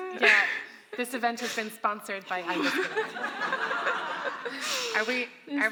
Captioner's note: audience laughs